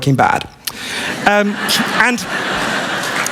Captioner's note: laughter